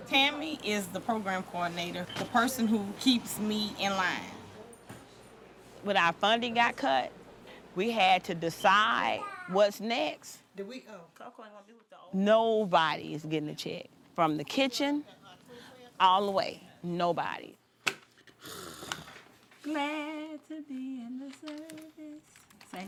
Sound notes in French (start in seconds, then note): 18.4 grognement